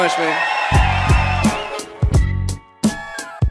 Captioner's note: audience applauds and cheers; upbeat music